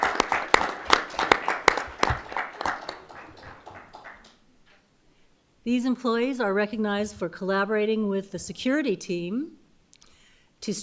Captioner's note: applause